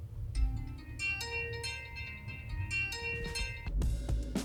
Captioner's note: alarm chime blares; upbeat music begins